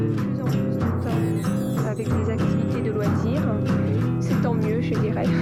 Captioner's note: speaking in foreign language